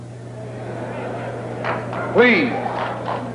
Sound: murmuring

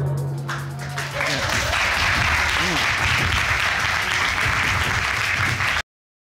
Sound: crowd applauding

